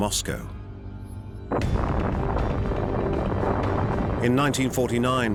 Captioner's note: explosion